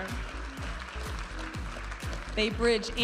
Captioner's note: audience applauding